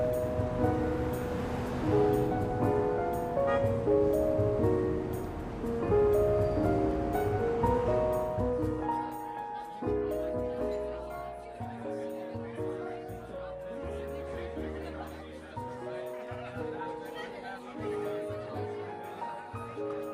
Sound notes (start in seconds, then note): 0.2 gentle piano music; 9.5 diners chattering